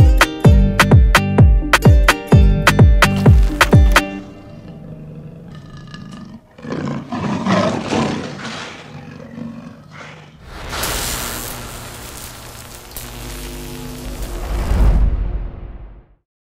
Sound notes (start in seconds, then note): 4.0 lion growling